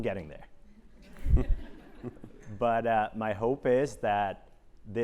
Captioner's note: laugh